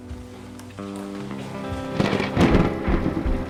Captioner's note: thunder clap